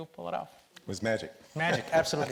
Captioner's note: laughs